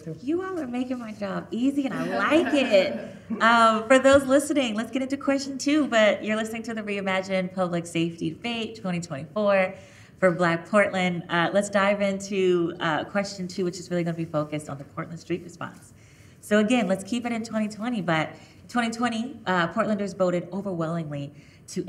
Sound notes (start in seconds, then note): 1.9 chuckling